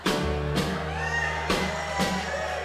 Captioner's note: audience cheering